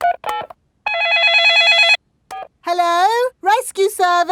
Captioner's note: dialing; cell phone ringing